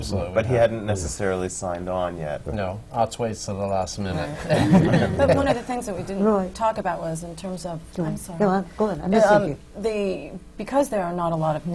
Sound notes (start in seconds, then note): 4.3 laughter